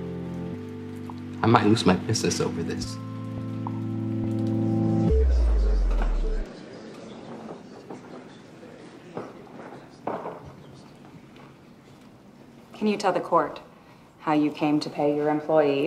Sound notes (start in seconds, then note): 5.1 audience clamoring